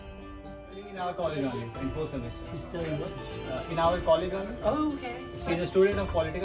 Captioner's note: people chattering indistinctly